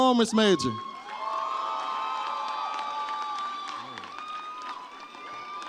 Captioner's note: audience cheers